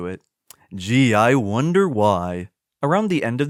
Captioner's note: sarcastically